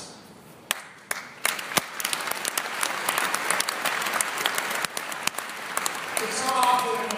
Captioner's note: applause